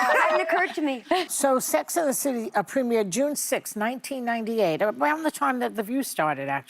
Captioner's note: laughter